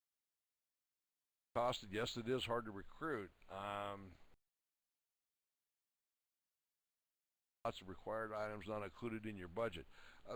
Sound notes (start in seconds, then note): 4.4 audio drops